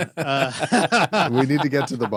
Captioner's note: laughing